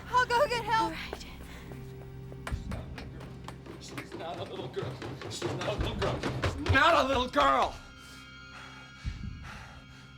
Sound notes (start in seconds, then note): 8.5 panting